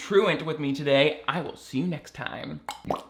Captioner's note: plopping sound effect